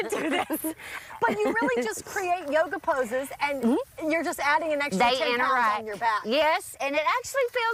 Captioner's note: laughter